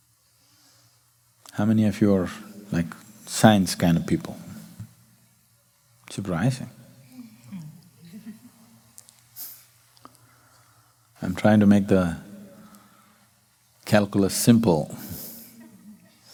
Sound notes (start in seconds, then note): 7.2 chuckles